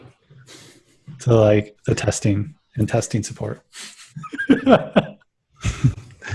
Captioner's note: laughs